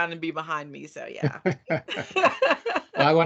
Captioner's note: laughing